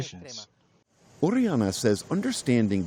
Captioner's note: through translator